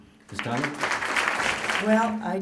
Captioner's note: applause